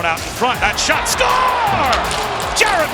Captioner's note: crowd cheers